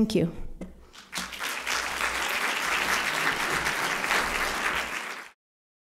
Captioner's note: applause